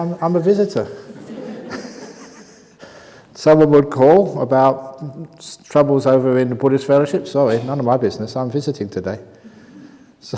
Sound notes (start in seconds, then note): 0.9 laughs